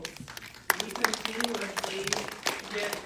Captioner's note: audience applauding